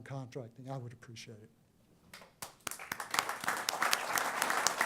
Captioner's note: applause